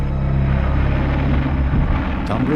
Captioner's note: plane engine roaring